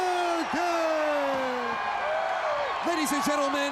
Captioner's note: crowd cheering